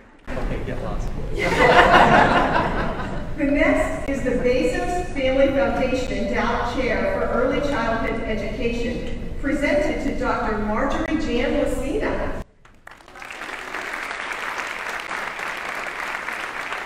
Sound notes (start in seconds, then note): 1.4 audience laughing; 12.6 audience applauding